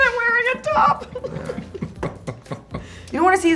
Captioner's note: laughing